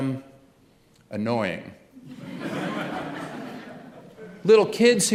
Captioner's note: laughter